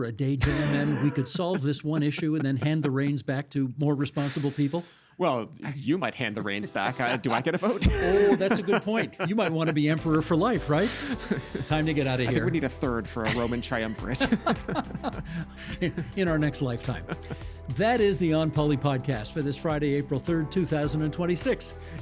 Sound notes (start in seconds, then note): 14.3 laughing